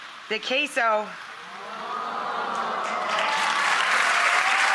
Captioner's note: audience cheering